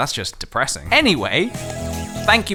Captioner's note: slurp